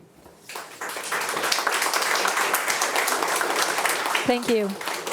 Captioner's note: attendees applauding